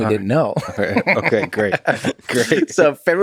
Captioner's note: Tim laughs